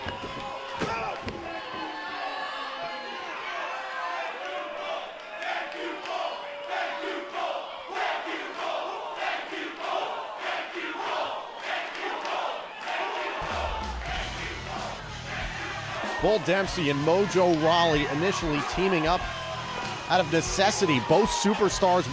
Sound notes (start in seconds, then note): 5.8 fans chanting